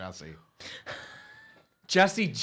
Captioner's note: laughing